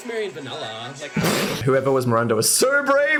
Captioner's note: Dan laughs